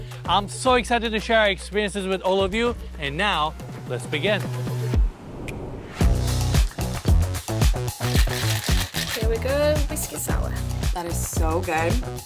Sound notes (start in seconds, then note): 6.0 upbeat music; 8.0 ice shaking